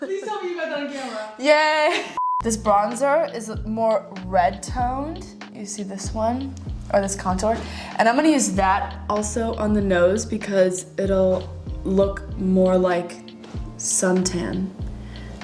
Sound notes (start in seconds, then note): 2.2 short beep